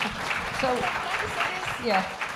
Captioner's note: applause